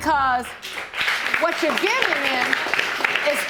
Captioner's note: audience applauding